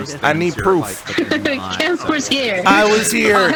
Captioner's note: laughs